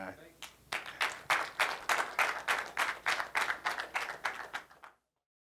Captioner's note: applause